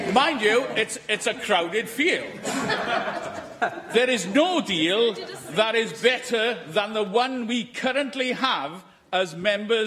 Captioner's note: laughter